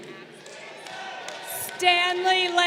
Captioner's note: crowd cheering